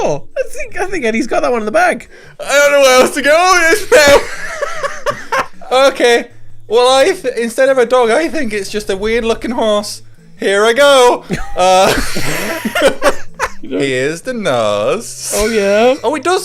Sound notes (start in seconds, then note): 3.8 laughing; 11.2 laughing